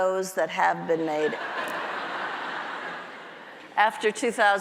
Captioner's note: audience laughs